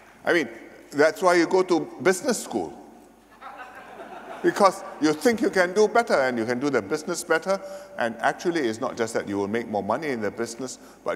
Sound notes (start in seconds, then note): 3.3 laughter